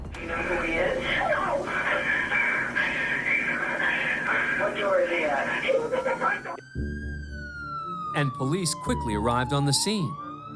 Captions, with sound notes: [siren wailing] - And police quickly arrived on the scene.